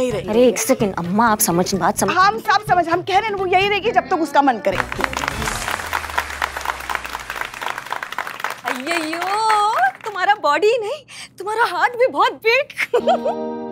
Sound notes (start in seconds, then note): 4.7 clapping